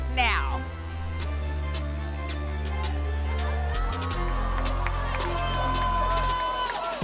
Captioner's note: crowd cheering